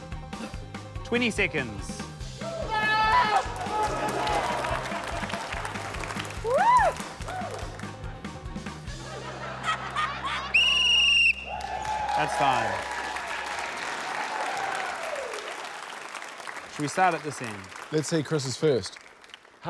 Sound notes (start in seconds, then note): 3.0 screams; 3.2 applause, laughter; 8.9 laughter; 10.5 blows whistle; 14.1 cheering, applause